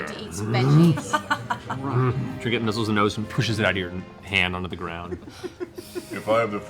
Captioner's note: bear noises